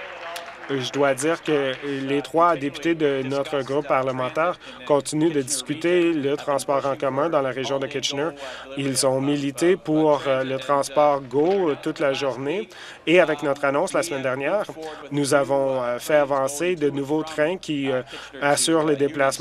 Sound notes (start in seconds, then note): 0.0 applause